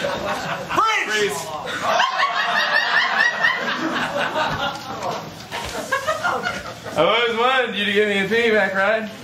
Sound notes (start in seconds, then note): 1.7 laughter